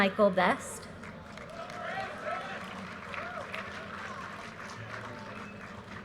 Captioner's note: audience cheers and applause